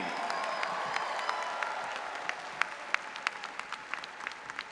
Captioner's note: audience applauding